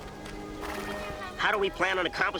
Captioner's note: horse snorting